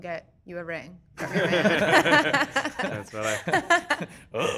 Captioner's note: crowd laughing